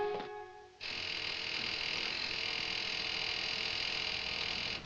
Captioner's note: buzz